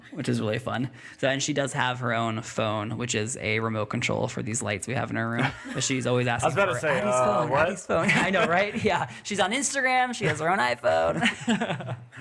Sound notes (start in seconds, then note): 7.9 laughs